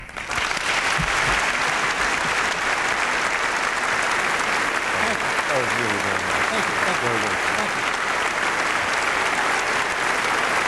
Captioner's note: applause